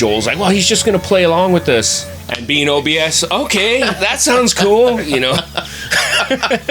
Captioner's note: laughter